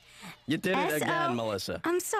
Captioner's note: whispering